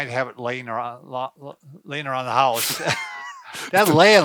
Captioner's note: both laugh